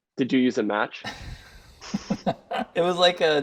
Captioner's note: laughter